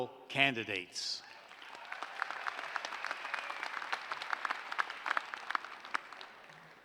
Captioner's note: applause